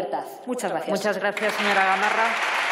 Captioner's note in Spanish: Aplausos